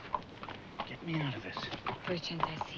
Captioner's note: whispers